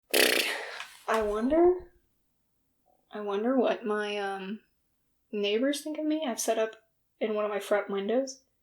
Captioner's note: blows raspberry